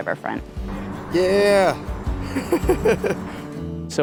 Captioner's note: laughs